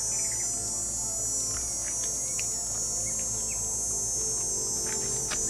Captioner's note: eerie music continues; high-pitched buzzing